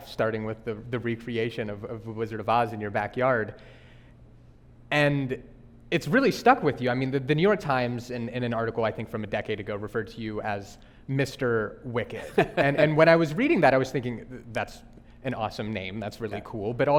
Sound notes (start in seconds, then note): 12.1 laughing